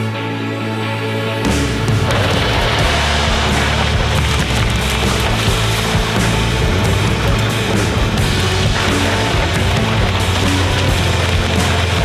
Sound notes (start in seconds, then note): 2.1 rock music; 3.9 crashing, bashing